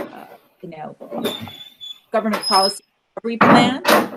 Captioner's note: metal scratching